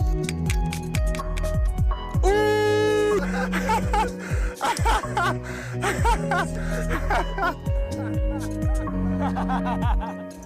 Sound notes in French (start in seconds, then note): 2.2 un homme crie; 4.6 rire un peu forcé; 7.9 rires